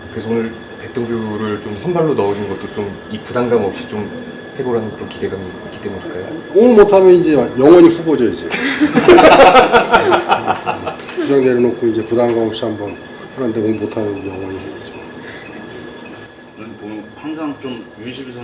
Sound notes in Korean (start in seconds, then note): 8.9 하하하하